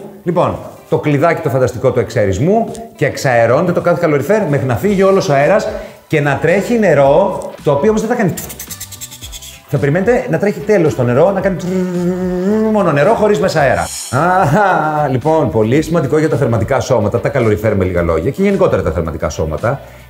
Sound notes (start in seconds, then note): 8.2 compressed air sound; 11.6 flow sound